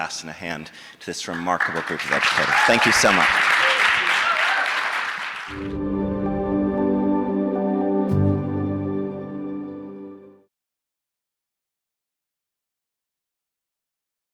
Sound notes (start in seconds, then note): 4.3 audience applauds; 5.6 gentle music